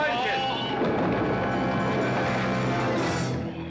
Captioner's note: tumbling down stairs